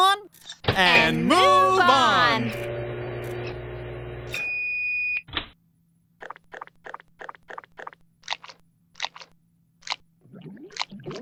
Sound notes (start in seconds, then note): 3.9 microwave beep